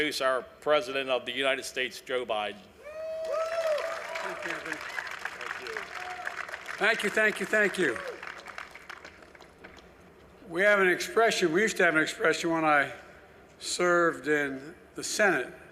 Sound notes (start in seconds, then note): 3.2 applause